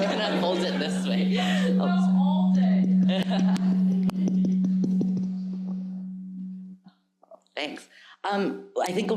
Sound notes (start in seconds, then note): 0.0 audience laughs; 4.2 microphone buzzing